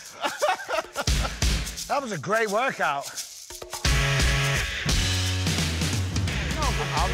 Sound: laughing

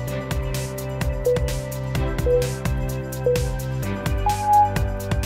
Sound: timer beeping

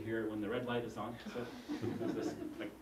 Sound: laugh

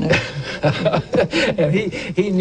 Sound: laughter

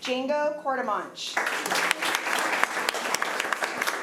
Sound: applause

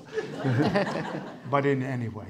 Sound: audience applauding

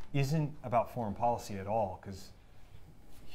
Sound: none

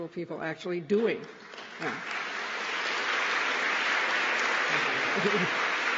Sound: applause

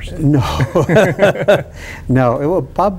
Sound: chuckles

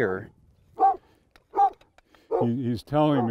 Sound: dog barking

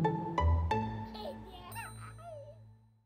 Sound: baby giggling

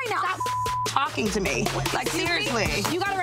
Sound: beep

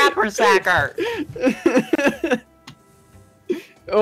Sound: is still laughing

